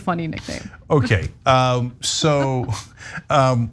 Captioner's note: laugh